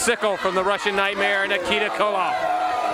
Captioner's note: crowd cheering